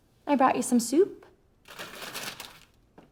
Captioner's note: bag crackling